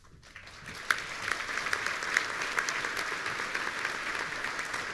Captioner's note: audience applauding